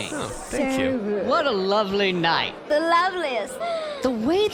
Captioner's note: sighs happily